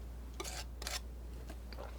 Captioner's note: scratching